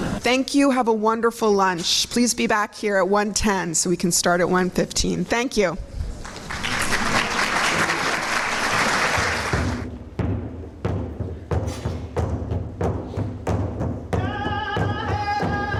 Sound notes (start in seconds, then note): 8.0 clapping; 9.7 drumming